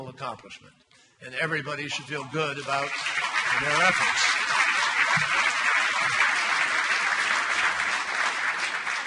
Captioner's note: applause